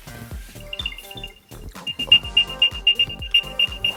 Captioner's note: beeping